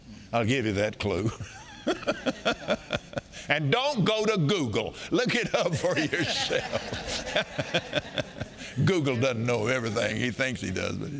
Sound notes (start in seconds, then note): 1.4 Kenneth laughing; 5.3 all laughing